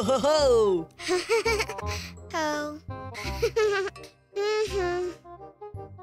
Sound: laughing

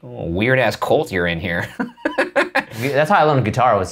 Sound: laughing

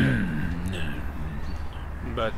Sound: growls

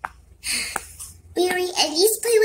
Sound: sighs

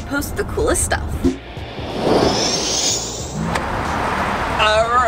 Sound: whirling

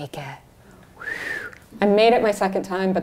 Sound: whistles

